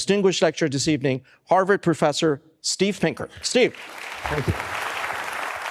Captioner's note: applause